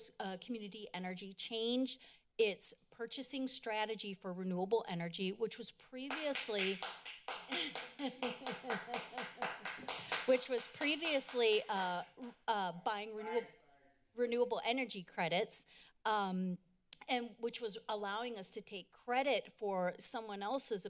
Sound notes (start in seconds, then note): 6.0 applause; 7.4 laughs